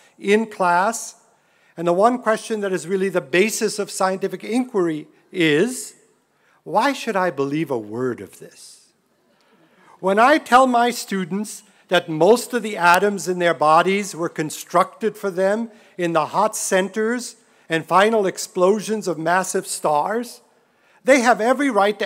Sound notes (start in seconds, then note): none